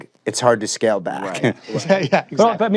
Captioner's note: laughs